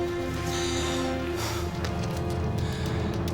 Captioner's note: breathing heavily